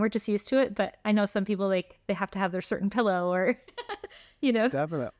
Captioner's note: laughter